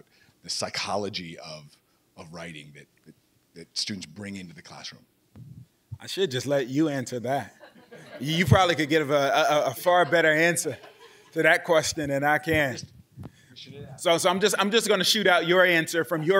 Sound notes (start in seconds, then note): 7.4 laughing